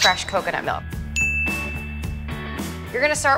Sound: ding

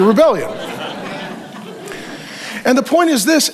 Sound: congregation laughs

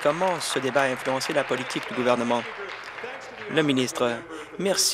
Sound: applause

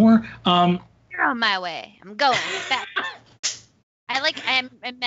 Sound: laughing drowns out speaker

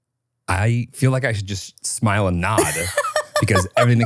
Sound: laughs

